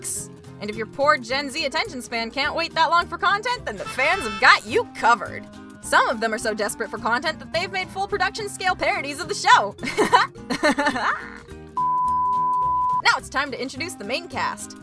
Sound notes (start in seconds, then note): 11.8 loud beep